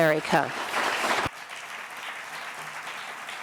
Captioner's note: applause